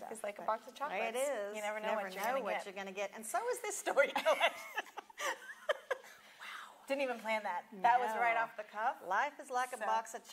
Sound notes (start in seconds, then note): 4.2 both laugh; 6.5 whispers